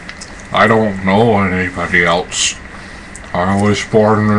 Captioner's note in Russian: чавкание